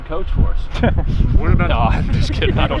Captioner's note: laughs